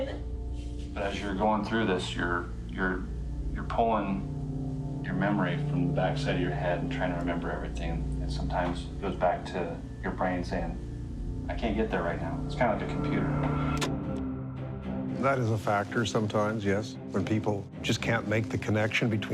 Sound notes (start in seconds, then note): 13.8 clicking